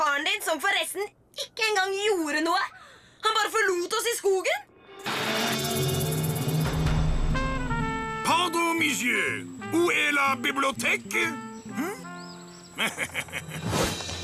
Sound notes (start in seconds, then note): 8.0 speaks french; 12.7 chuckles